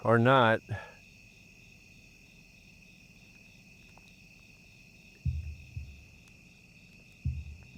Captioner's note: crickets chirping; tense music